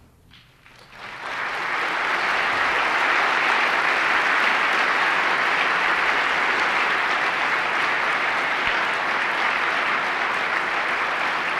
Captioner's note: applause